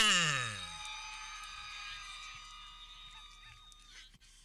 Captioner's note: people cheering